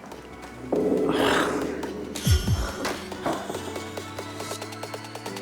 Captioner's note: heartbeat sound effect